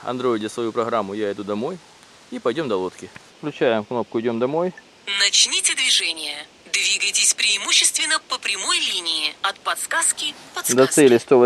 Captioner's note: voice from the phone - “118 meters to the target”